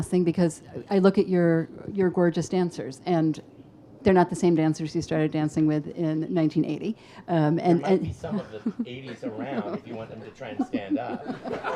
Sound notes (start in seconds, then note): 7.9 laughs; 11.5 audience laughs